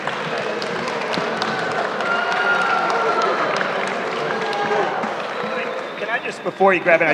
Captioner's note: scattered applause, booing